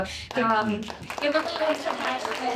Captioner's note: applause